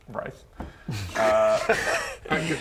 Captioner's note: "shocked" noises